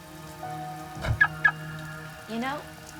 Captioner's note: car alarm chirping